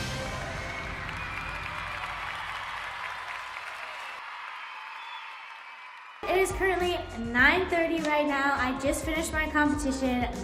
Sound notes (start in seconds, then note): 0.0 audience applauding; 0.0 audience cheering